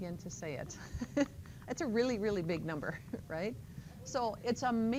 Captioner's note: laughter